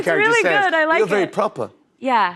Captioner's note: English accent